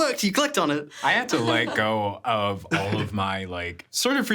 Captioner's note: chuckling